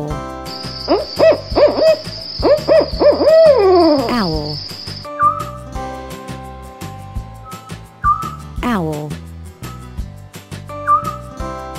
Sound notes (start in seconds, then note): 0.6 owl sound